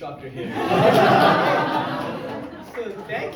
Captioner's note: crowd laughs; speaks faintly